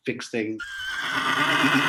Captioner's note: horse neighing